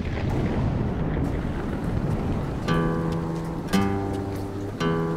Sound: thunderstorm rumblings

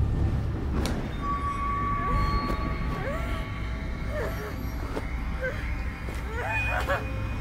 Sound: suspenseful music; Stephanie groaning

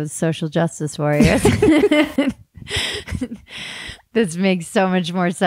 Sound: laughing

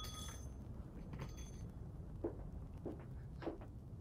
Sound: door bell jingling

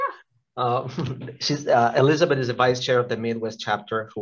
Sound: laughs

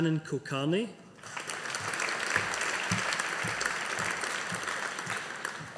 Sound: audience applauding

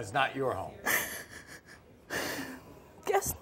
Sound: sighs

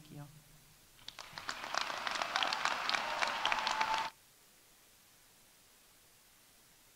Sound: audience applauding; audience cheering

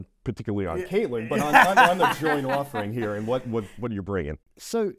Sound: laughs

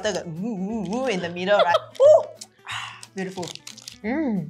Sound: laughs

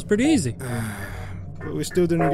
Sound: dissapointed sigh

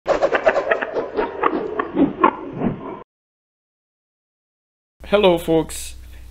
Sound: sound of something spinning

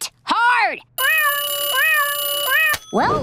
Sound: alarm ringing

